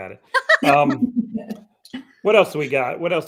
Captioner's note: laughing